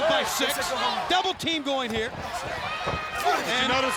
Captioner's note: blows thudding